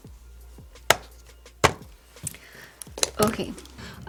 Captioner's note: taps tools